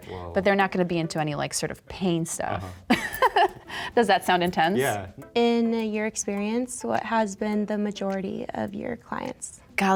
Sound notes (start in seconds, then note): 2.8 chuckles